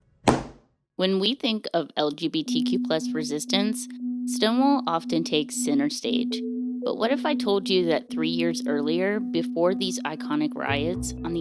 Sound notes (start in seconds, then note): 0.2 book thuds